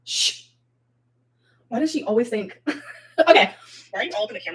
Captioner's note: chuckles